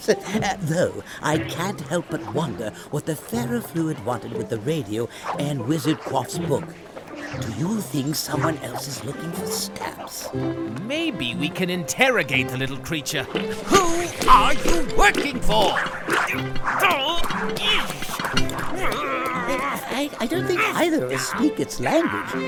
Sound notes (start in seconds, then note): 13.2 banging container; 16.6 more banging and grunting